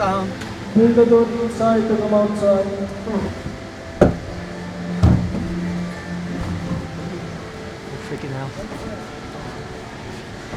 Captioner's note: stumbling